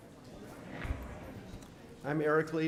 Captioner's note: audience chattering